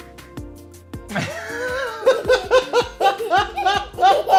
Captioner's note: laughs